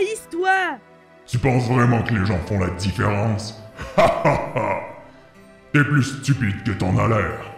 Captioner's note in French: Rire